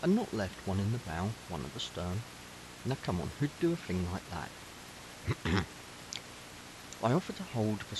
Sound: cough

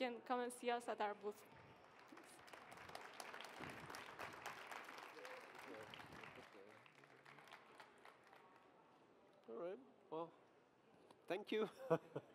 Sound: audience applauding

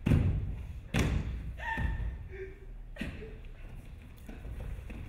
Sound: woman screaming

